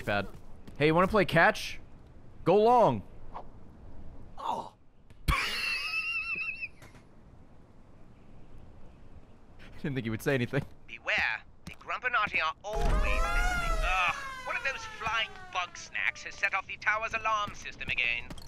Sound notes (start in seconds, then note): 4.3 laughs